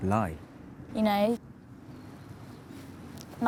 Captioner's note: none